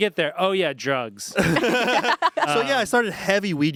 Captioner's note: everyone laughs